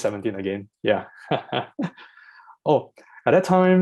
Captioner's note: laughs